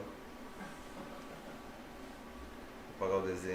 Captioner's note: laughs